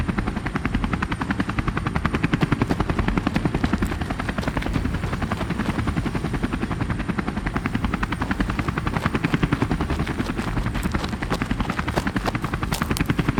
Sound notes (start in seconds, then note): 2.1 footsteps pattering